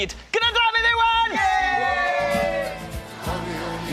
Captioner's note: cheering